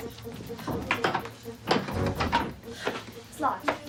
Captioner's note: dramatic music; door rattles